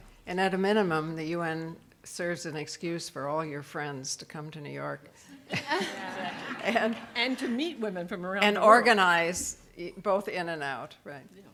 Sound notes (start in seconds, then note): 5.5 audience laughing